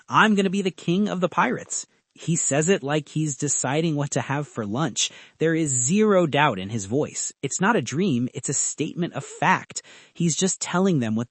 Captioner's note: inhaling